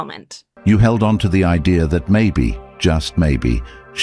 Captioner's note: AI Voice